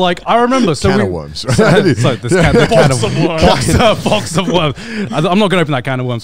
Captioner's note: chuckling